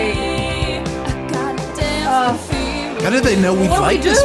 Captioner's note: groans